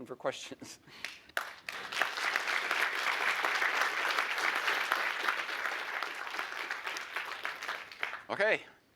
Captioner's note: applause